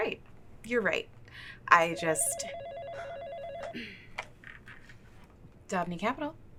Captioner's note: phone ringing